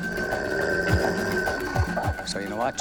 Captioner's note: growling